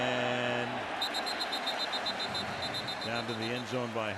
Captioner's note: whistle